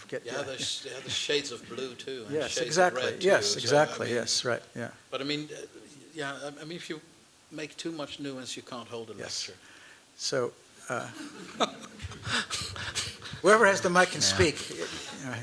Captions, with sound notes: They have shades of blue, too. And shades of red, too. Yes exactly. That's right. Yeah. But if you make too much nuance, you can't hold a lecture. [laughter] Whoever has the mic can speak.